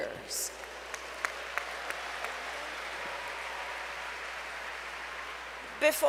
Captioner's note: applause